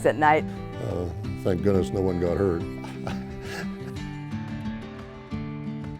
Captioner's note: laughs